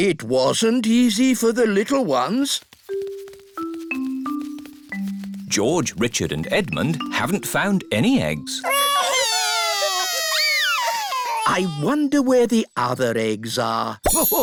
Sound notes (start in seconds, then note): 8.6 wailing